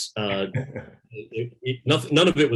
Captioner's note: laughs